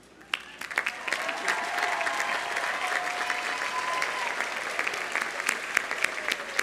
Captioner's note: audience applauding; audience cheering